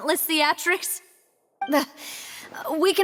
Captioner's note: none